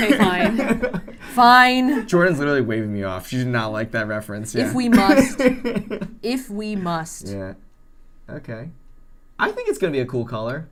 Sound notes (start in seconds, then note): 4.6 laughs